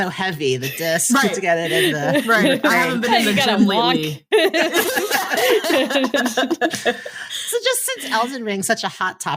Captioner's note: laughing